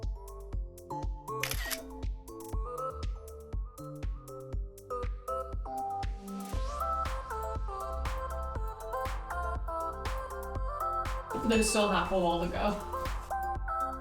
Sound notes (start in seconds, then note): 1.4 camera clicks